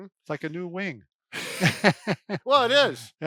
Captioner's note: laughs